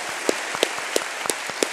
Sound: applause

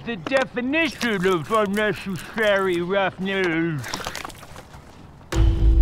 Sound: gurgling water; tense music

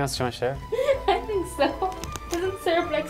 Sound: laughing

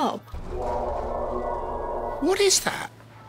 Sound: gargle

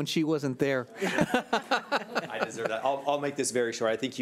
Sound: laughing

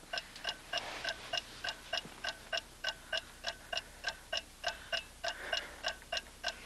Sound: clock ticking

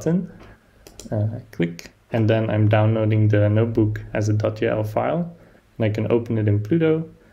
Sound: click

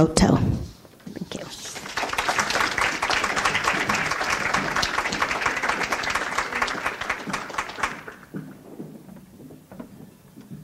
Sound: audience applauds; silence

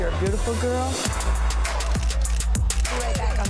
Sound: cameras clicking

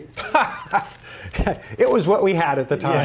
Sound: laughing

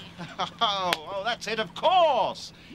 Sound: laughs

